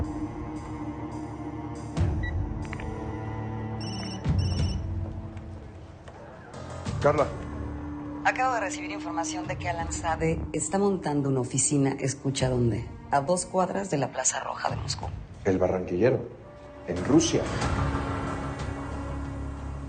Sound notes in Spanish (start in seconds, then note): 3.8 Suena el celular